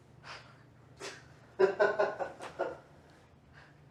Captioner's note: laughing